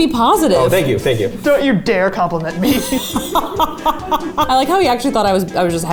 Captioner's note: laughing